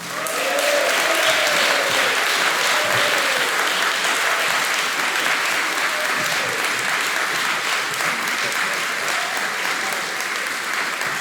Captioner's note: applause